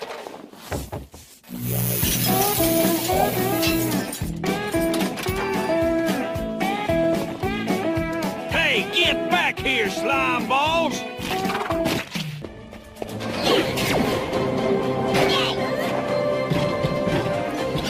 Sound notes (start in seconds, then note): 15.5 grunts